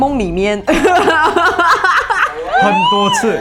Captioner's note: laughter